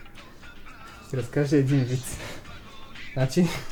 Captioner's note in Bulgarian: смее се